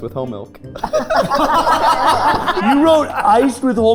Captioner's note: group laughing